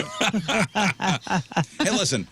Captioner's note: laughing